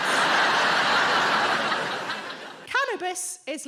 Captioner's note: audience laughing